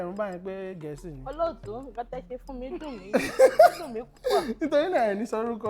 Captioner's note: laughs